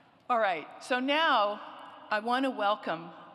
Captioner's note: none